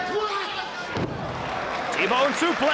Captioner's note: body thudding